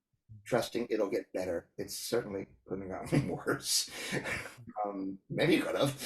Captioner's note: laughs